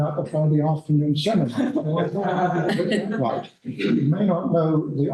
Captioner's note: laughter